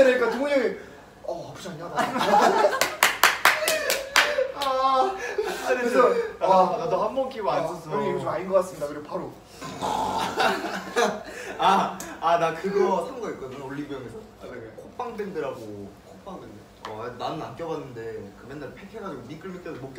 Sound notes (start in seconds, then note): 9.6 snore